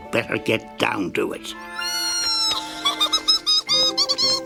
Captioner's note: giggling